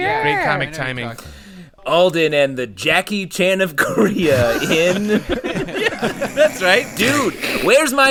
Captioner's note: laughter